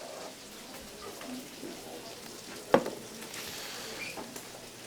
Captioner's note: students murmuring